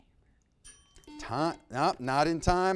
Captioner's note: bell rings